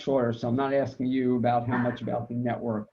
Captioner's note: laughs